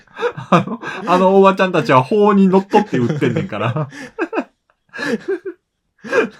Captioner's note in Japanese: 笑い